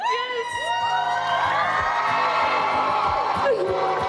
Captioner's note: crow cheering